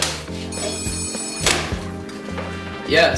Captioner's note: phone ringing